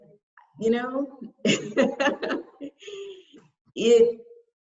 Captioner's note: chuckles uncomfortably